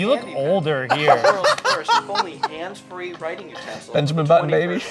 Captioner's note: laughing